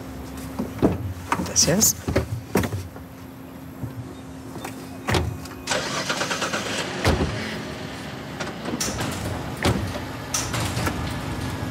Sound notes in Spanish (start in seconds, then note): 0.0 Ruido del vehículo